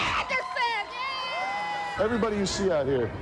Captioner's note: all cheering